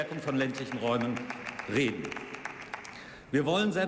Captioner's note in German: Beifall